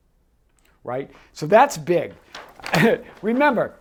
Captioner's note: paper rustles